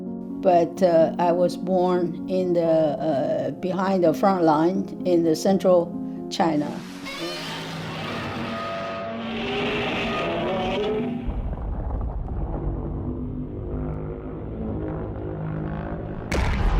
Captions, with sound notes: But, I was born in the, behind the front line in the central China. (Godzilla screams) (Godzilla screams)